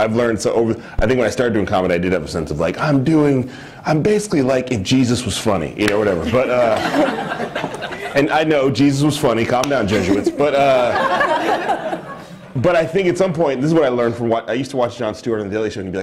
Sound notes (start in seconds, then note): 6.2 laughter; 10.9 laughter